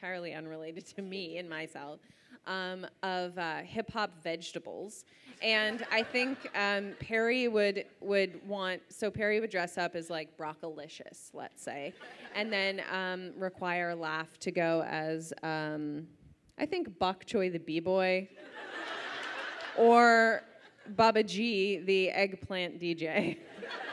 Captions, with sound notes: entirely unrelated to me in myself, of hip hop vegetables and I think Perry would want, so Perry would dress up as like, broccolicious, let's say, and then require Laf to go as I think, bok choy the b-boy (audience laughs) or baba g the eggplant DJ.